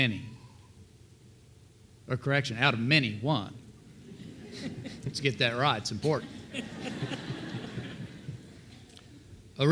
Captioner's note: laughter